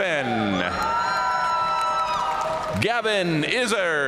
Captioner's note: audience cheering and applauding